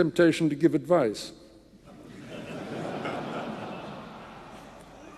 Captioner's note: audience laughing